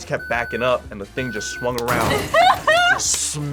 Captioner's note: laughs